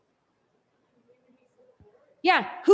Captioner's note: student faintly speaking